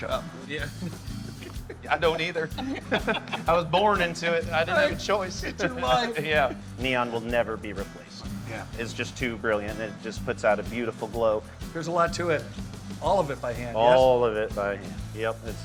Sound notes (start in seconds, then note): 2.7 both laugh